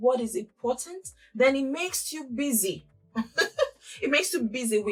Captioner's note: laughs